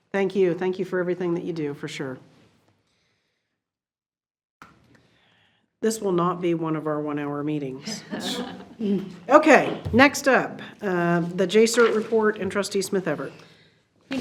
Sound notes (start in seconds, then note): 7.9 board laughs